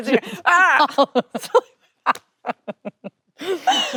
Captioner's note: both laughing